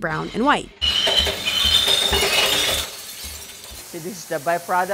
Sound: glass clinking

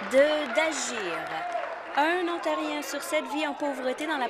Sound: applause

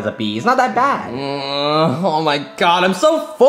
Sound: Mario grunts

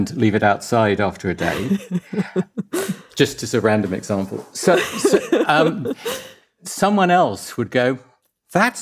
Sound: laughs

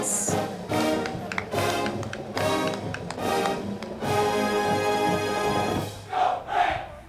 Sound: band music; crowd cheering

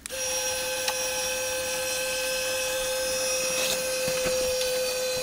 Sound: electric motor runs

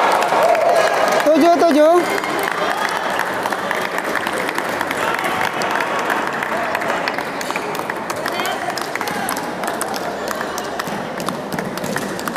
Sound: applause

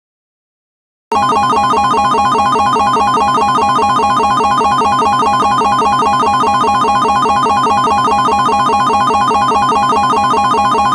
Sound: sound of slot machine

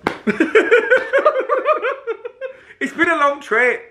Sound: laughing

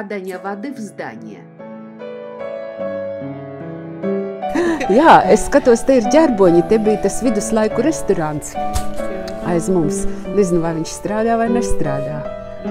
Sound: conversation in Latvian

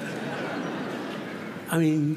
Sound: laughter

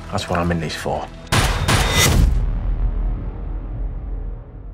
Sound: gun bangs

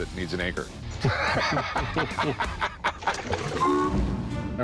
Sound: both laugh

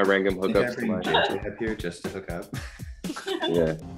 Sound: chuckles

